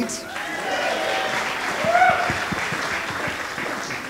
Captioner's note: audience applauds